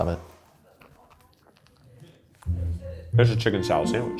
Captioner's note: teeth crunching